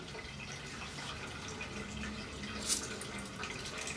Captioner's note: water runs in cistern